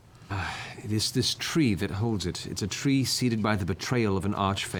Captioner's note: sighs